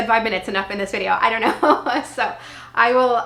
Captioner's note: laughing